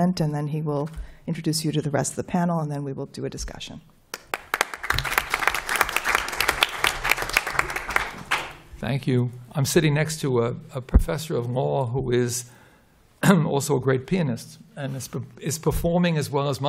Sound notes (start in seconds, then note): 4.1 applause